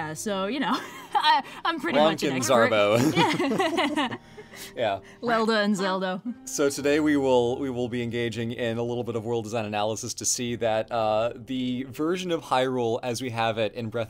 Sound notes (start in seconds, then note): 2.8 laughs